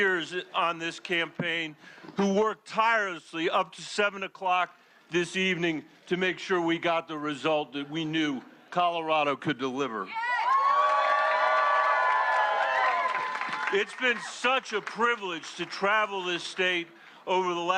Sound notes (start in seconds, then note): 4.3 cheers and applause